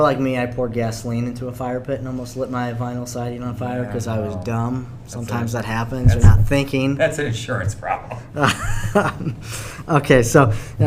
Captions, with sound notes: - Like me I poured gasoline into a fire pit and almost lit my vinyl siding on fire 'cause I was dumb! Sometimes that happens, not thinking. - That's an insurance problem. - (laughs)